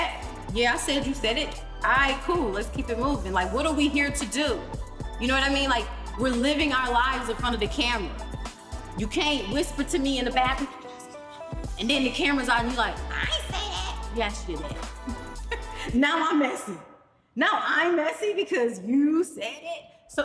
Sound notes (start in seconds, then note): 10.9 fake whispering; 14.7 laughs